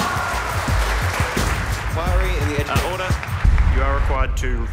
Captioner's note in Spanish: aplausos